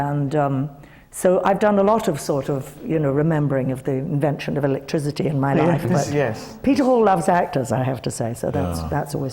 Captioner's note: none